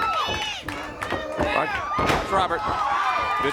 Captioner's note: crowd chatter